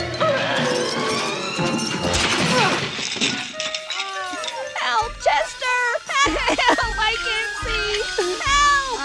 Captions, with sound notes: [crash!!] Help, Chester! Help! I can't see. Help!